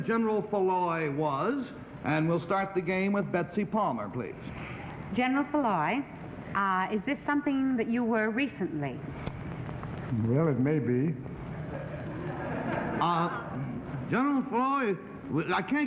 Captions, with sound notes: that General Foulois was, and we'll start the game with Betsy Palmer, please. -General Foulois, is this something that you were recently? -Well, it may be. (laughing) -Uh, General Foulois,